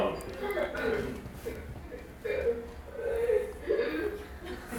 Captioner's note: crowd laughing